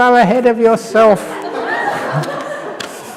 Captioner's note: laughter